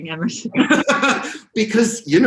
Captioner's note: both laugh